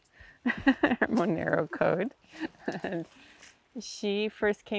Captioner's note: reímos